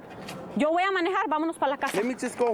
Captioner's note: speaking spanish